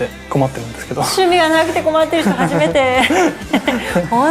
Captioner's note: laughs